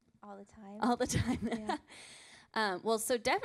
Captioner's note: laughs